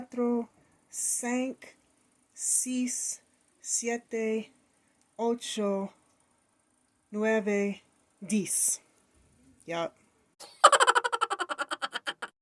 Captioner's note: child laughter